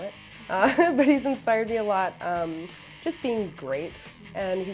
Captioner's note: laughs